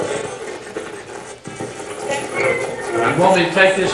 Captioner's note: radio channel changing